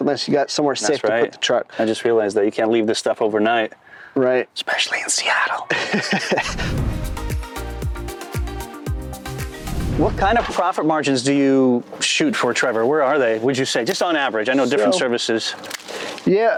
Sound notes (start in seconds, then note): 5.1 whispers; 5.7 both laugh; 6.4 upbeat music